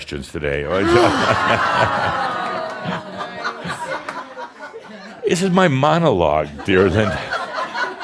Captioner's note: audience shouts “Oh!” and laughter; more laughter